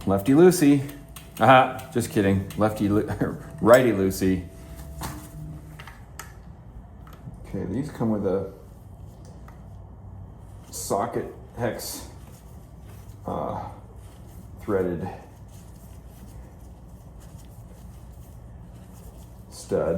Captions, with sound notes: Lefty loosey, aha, just kidding. Lefty loosey. (plastic crinkling) Okay, these come with a socket hex threaded stud.